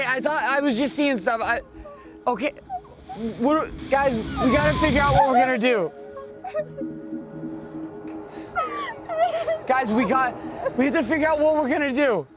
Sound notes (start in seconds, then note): 5.7 crying